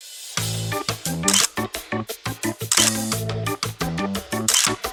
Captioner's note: camera clicking